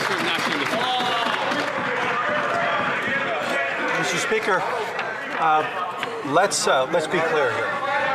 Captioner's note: applause